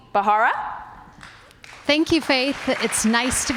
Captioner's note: applause